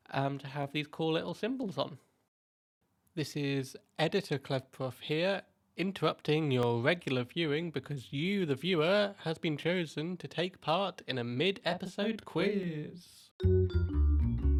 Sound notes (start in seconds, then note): 11.9 echoey